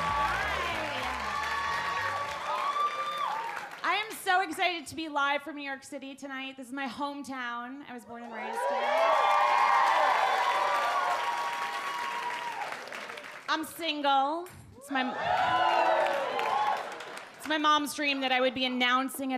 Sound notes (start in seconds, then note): 8.4 audience cheer and applaud; 15.0 audience whoop